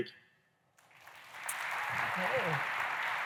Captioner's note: applause